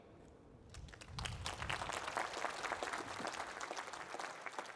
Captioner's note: applause